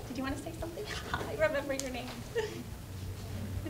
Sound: laughing

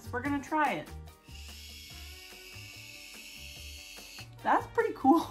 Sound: whirring sound

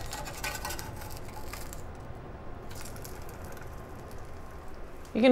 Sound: egg sizzles

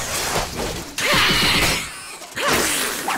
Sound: screeching

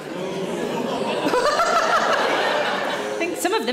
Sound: audience boos; Sarah laughs

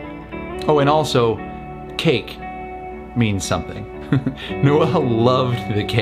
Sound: laughs

